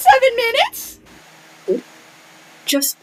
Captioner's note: sips tea